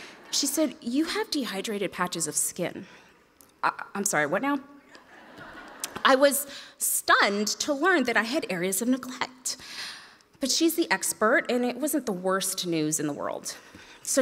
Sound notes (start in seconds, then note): 5.0 audience laughs